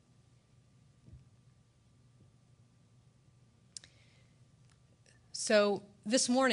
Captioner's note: A moment of silence is observed